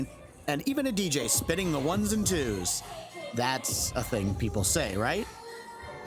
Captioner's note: conspiratorially